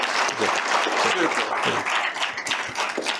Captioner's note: applause